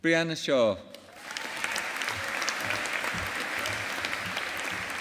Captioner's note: audience applauding